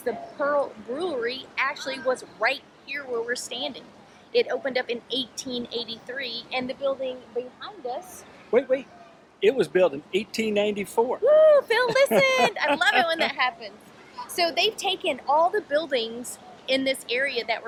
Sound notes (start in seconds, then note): 11.7 laughing